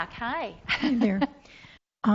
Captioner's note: laughs